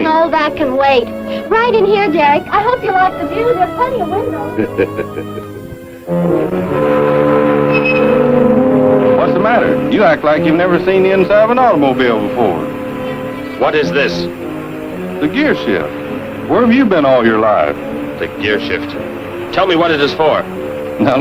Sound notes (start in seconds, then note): 6.1 laughs; 7.0 ominous music